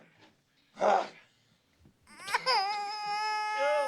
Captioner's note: baby crying